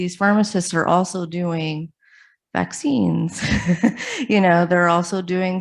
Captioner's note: laughs